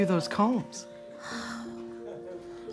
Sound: sighs

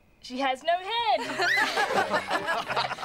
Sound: laughing; scream

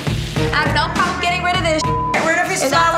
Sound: beep

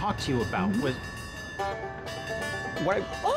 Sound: bell clanging

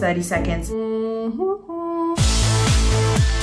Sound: humming; upbeat rock music

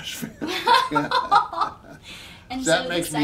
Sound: both laughing

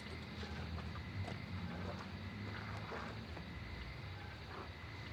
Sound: night ambience

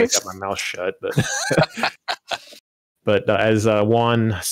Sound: laughter

